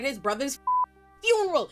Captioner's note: beep